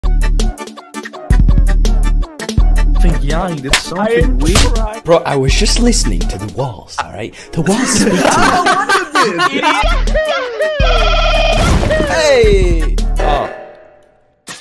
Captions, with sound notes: 'Think Yahi did something weird..? Bro, I was just listening to the walls, alright? The walls speak to me. Idiot ! *Mario noises* Ey ! Oh.